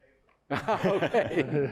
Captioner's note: laughs